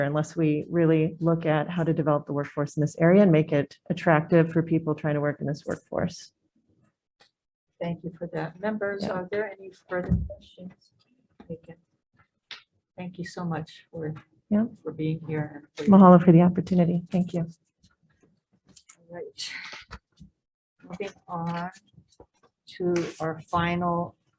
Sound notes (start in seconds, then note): 15.3 speaks in foreign language